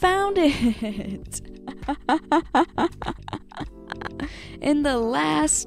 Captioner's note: laughing